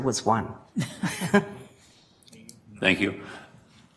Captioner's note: laughter